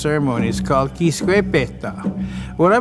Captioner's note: speaking in foreign language